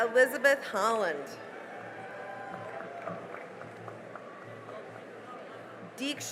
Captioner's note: cheering and applause